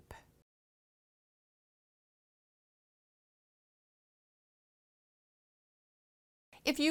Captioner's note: no Sound Present